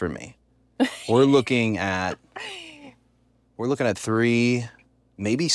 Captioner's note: laugh